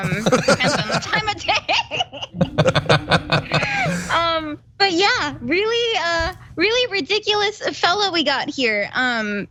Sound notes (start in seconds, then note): 0.0 laugh